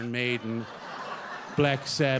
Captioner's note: audience laughs